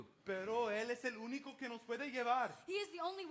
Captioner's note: speaks in Spanish